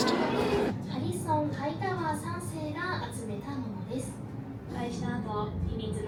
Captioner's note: cast member speaking in Japanese